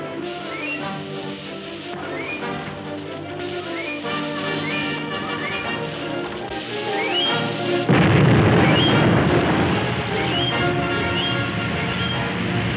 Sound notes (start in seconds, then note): 7.8 exploding